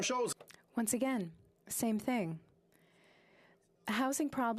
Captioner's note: speaking French